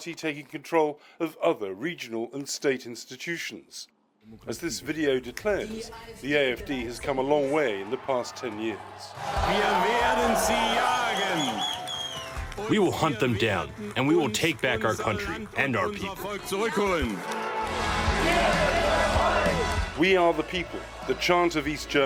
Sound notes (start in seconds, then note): 9.3 through translator